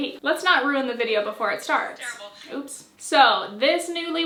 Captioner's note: phone noises